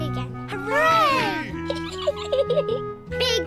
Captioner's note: peppa pig giggles